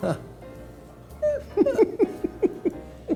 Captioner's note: laughs; piano music